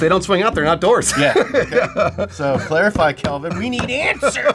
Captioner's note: laughs